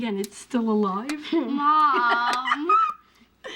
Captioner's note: laughs